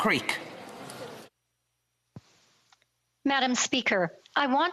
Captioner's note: speaking Alternate Language